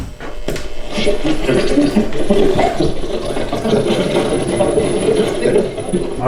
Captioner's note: static